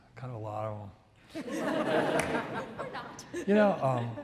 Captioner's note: audience laughs